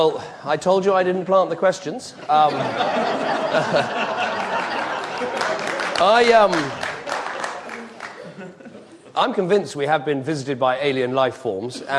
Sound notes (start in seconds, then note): 2.2 audience laughing; 5.2 audience applauding